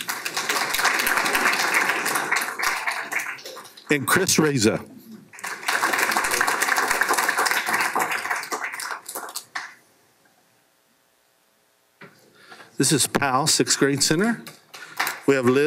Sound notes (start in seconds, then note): 0.0 applause